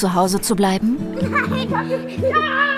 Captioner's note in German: Sie lachen